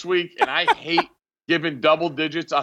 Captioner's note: laughing